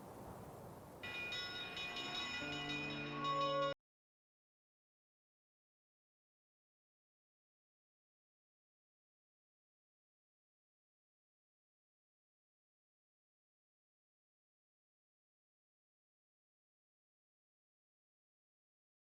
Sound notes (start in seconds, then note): 1.0 bell ringing